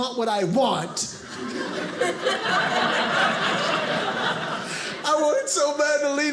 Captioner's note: audience laughing